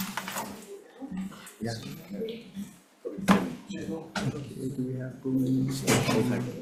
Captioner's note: members chattering